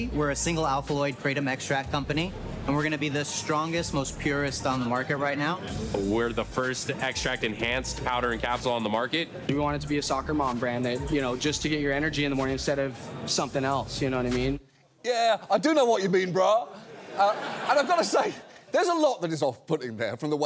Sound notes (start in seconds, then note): 16.6 audience laughs